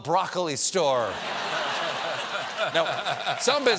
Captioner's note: laughter